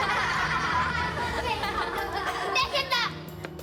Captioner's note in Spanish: Risas